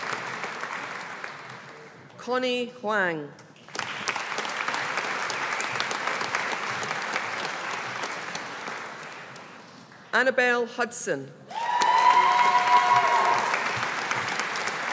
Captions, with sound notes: Connie Huang. (AUDIENCE APPLAUDING) Annabel Hudson. (AUDIENCE APPLAUDING)